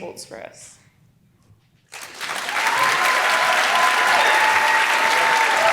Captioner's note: applause